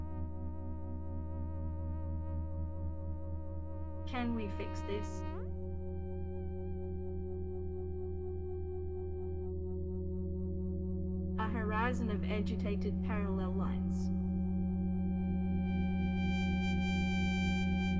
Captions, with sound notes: Can we fix this? (electronic humming) A horizon of agitated parallel lines. (electronic humming)